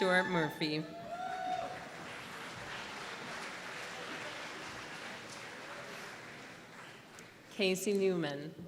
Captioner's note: applause